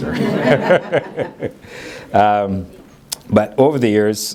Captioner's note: everybody laughing